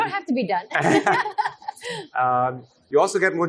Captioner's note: all laughs